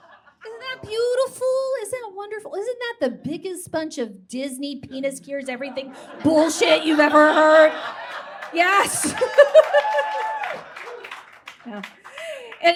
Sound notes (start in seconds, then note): 8.0 audience claps and cheers